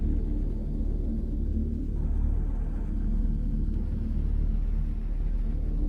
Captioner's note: none